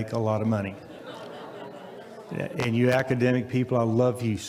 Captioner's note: audience laughs